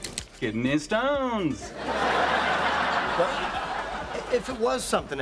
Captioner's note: viewers laughing